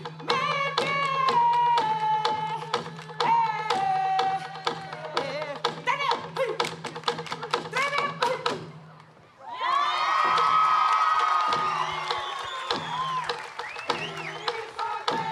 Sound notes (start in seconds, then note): 9.4 cheering, applause; 12.6 drumbeats and singing continue